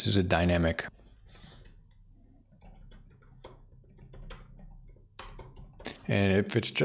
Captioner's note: silence